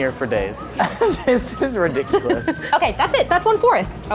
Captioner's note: laughter